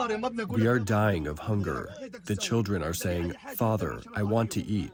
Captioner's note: through translator